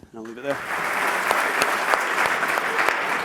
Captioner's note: applause